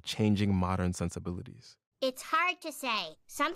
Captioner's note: soundbite of tv show, "the simpsons"